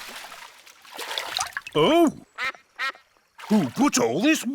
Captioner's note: quacks